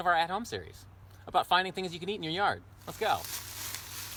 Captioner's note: rustling of leaves